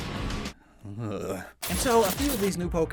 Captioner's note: shudders; glitch SFX